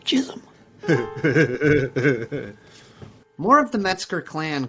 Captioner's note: Carl laughing